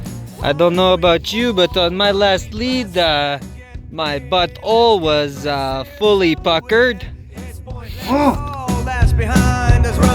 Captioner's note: bad French Canadian accent